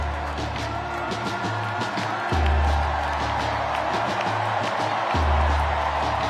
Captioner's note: cheers and applause